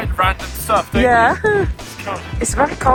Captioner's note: laughs